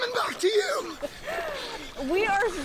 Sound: laughter; laughter

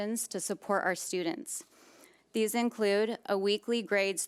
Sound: none

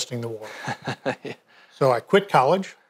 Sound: laughs

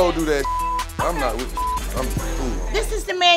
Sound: beep

